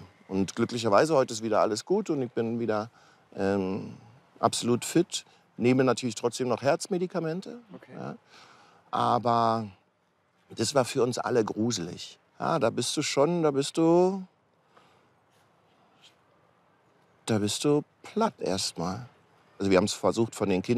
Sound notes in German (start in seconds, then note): none